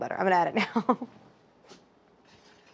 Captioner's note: laughing